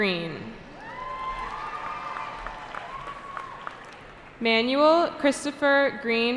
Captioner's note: cheering